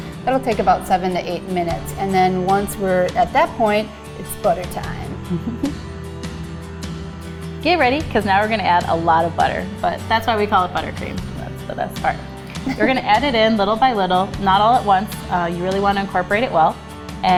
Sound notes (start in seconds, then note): 5.2 laughs; 12.5 laughs